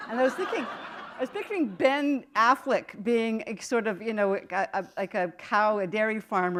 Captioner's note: laughter